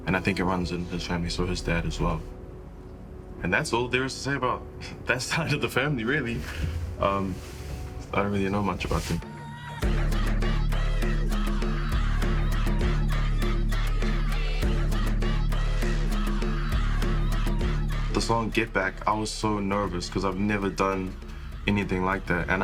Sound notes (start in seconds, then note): 13.7 fierce haka